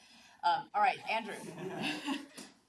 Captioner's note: laughs